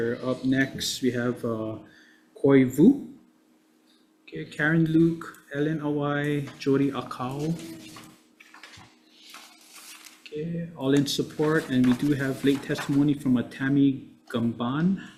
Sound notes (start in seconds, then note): 8.4 papers shuffling